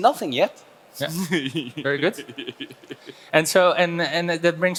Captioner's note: laughs